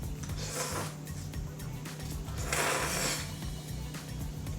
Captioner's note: liquid slurping